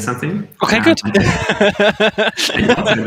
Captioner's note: all laughs